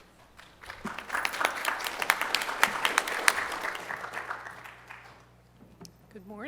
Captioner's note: applause